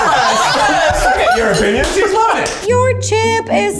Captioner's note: laughs